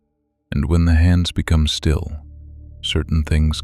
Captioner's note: low voice